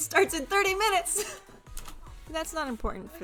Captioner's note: laughing quietly